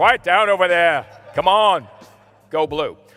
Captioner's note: laughter